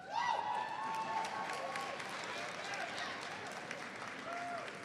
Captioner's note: audience cheers and applauds